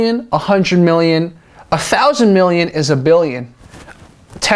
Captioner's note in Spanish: en inglés, no español